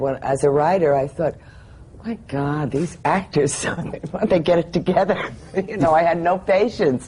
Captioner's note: laughs